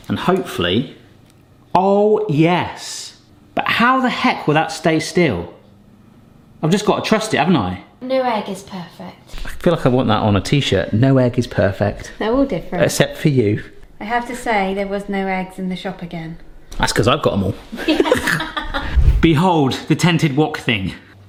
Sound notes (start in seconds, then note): 17.8 both laugh